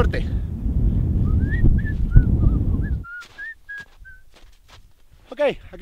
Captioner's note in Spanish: silbido